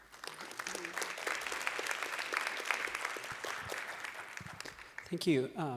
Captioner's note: applause